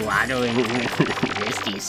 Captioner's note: chuckling